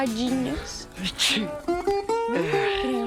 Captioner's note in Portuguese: Jotapê espirra